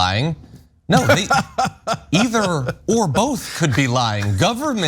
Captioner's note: laugh